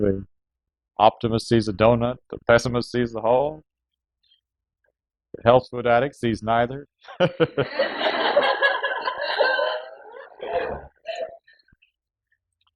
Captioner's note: laughter